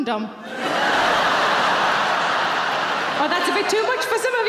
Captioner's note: audience laughing